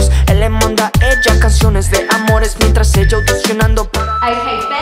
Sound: beeping

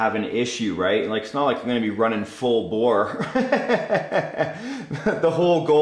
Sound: laughs

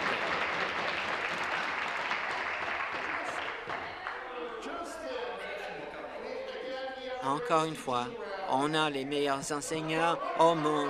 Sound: some Applause

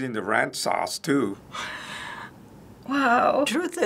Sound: breathless laugh

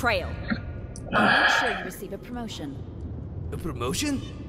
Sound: disgusted sigh

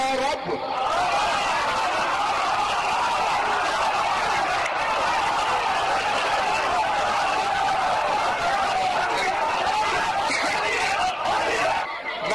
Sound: audience erupts in loud cheers and chaotic shouting

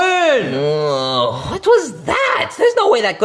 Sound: moaning

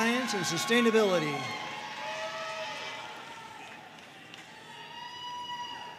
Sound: audience cheering and applauding

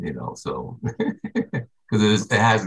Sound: chuckles

